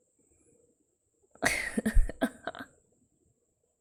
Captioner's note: laughs